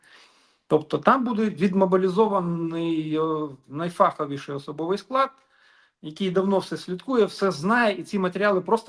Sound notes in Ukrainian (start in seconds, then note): 0.0 сопіння